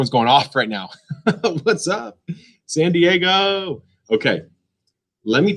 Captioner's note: laughs